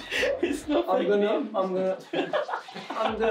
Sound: laughing

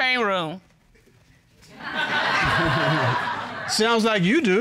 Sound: audience laughs; laughs

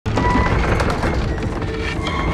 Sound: door creaking; tense music

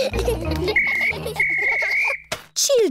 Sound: blows whistle

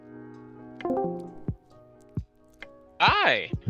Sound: Discord Noises

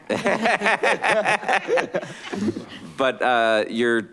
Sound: all laughing

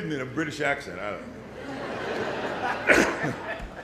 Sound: laughter

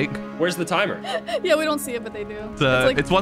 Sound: laughs

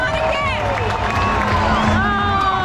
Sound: fans cheering

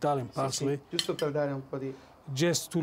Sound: speaking Italian

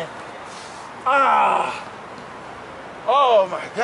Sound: grunts

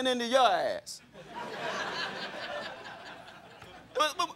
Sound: crowd laughing

